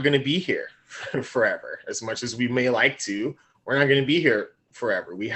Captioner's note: laughing